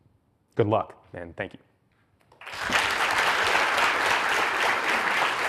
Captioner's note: audience applauds